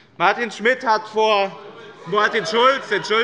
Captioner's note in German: Zurufe von der SPD: Schulz!